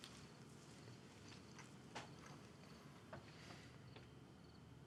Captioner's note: insects chirping